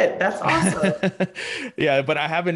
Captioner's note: chuckles